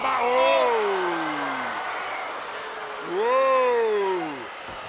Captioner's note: commentators exclaim